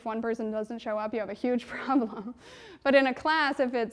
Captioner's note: chuckles